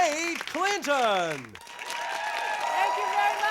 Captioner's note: hoots and applause